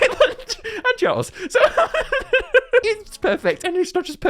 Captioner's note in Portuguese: risos maníacos